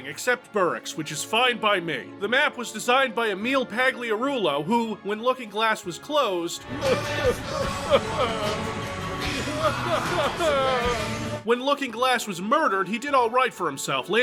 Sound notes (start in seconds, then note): 6.7 crying; 6.7 sad music